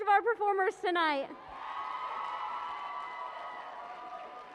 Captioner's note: cheering and applause